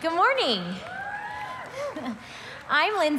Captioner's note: crowd cheering